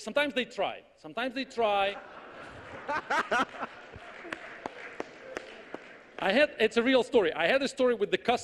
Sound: audience laughs

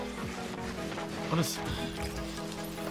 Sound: sigh

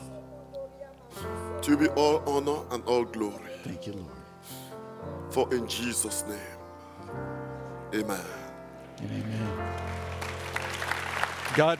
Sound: audience Applauds

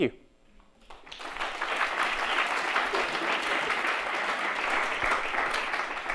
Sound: applause

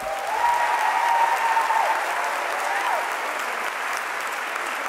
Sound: audience applauding

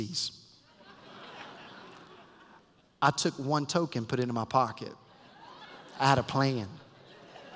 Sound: laughter

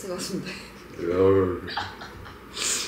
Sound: haha; hahaha

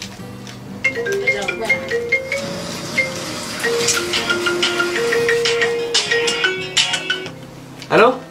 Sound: ringing phone

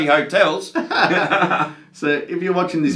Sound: both men laughing

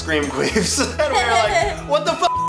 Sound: laughs

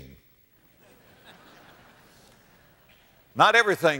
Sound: audience laughter

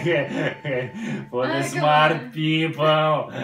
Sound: is laughing

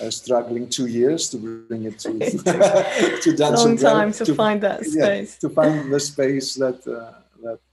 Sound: laughter

